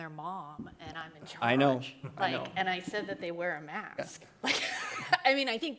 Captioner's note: laughs